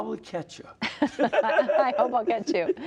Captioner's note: laughter